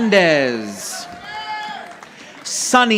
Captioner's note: audience applauding